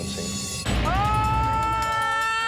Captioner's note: screaming